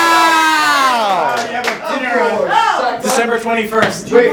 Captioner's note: excited talking from green